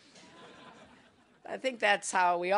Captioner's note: laughter